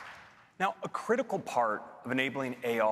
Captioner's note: applause